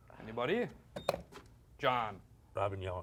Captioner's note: beep